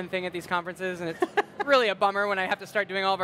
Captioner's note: laughs